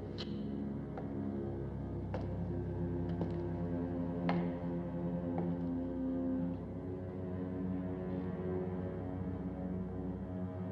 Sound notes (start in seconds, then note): 3.0 footsteps Continue